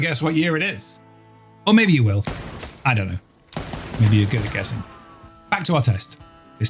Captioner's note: gunshot